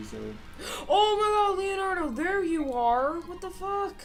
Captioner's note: gasps